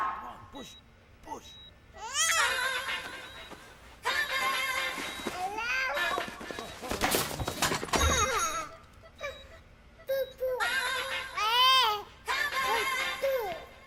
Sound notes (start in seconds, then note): 2.0 baby cries; 7.9 baby laughs